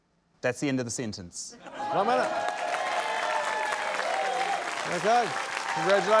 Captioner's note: laughter, applause